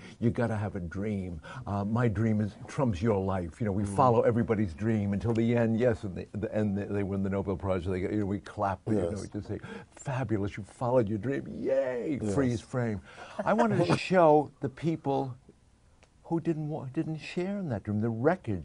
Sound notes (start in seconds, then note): 13.1 laughs